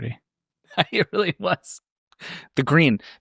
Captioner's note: laughing